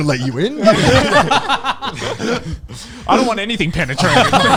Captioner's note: everyone laughing